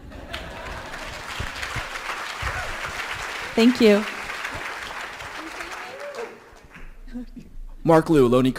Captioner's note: applause